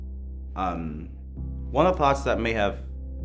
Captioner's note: none